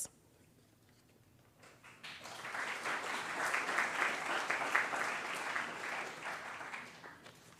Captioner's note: applause